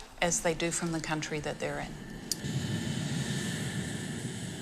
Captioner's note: airplane roars